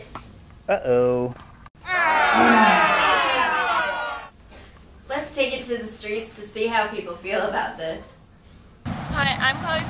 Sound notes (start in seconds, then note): 1.8 kids boo and yell